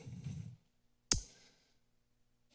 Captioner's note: tongue clicks